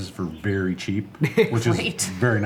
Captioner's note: laughing